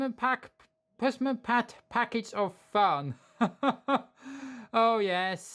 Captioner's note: chuckles